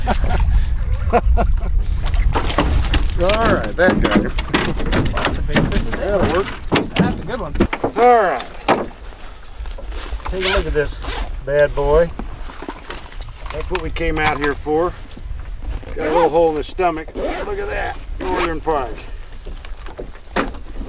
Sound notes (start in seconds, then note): 5.2 clunk